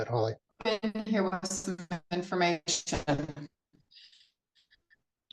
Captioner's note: crackling drowns out